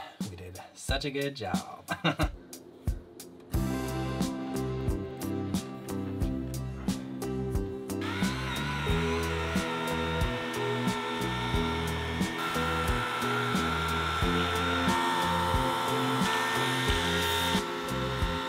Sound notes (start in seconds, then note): 2.3 upbeat music; 8.2 buffing machine buzzing